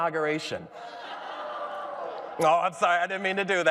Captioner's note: audience laughs